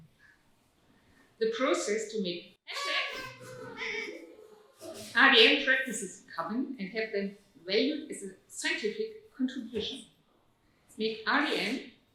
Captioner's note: audience toots